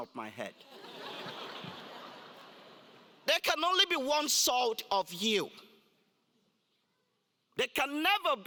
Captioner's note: laugh